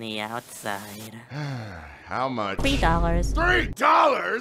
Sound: sighs

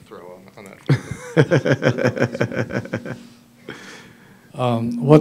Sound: laughter

